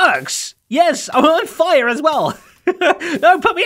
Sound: chuckles

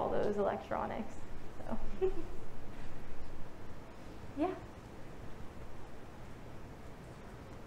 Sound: laughing

